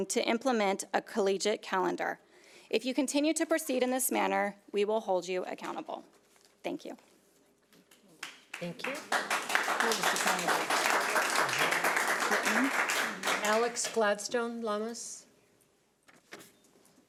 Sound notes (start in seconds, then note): 8.2 audience applauds; 10.0 applause drowns out speaker